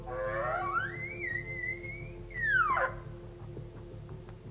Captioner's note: bugling elk call